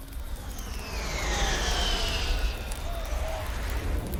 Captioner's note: jet engines roar